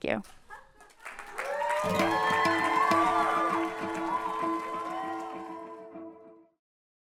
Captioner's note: cheering and applause